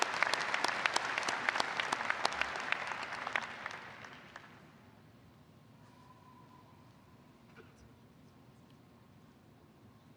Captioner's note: applause